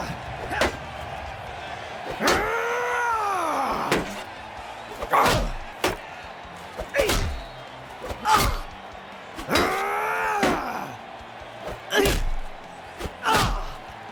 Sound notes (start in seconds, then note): 2.4 screams; 5.2 groans; 8.2 grunts; 9.2 screams; 13.2 grunts; 13.3 groans